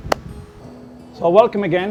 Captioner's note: sound of clap hands